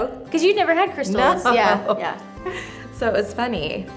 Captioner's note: laughs